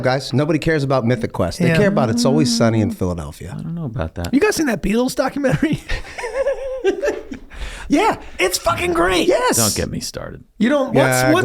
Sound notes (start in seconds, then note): 5.4 Rob and Charlie laugh